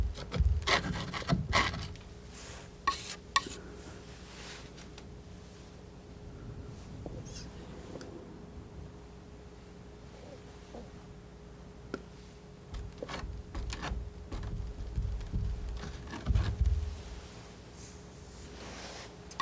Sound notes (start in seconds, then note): 0.0 scratching